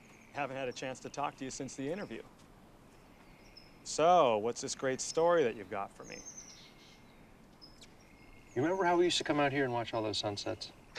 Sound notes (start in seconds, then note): 7.0 bird chirp